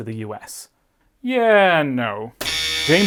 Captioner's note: buzzer